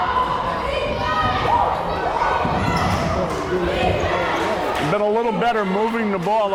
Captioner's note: crowd chanting defense